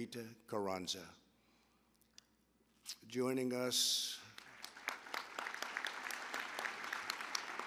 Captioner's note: applause